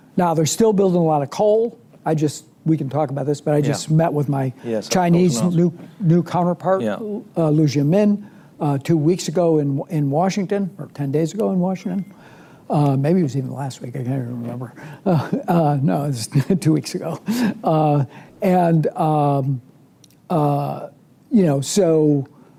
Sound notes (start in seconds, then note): 19.6 laughs